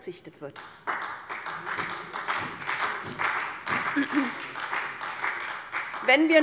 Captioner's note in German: Beifall bei der SPD